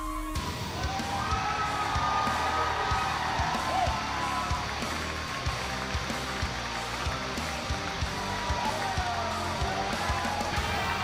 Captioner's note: cheers and applause